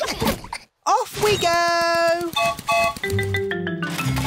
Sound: whistle blows

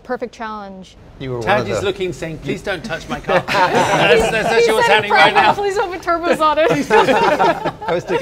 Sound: laughing

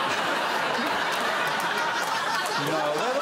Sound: audience laughing

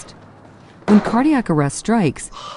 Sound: hard-breathing

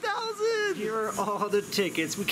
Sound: laughing

